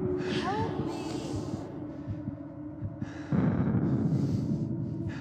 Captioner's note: breathing deeply